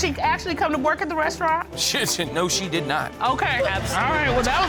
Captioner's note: spluttering